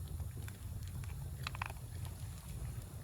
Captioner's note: 🔊Crunchy